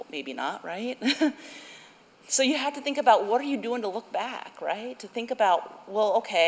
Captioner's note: laughter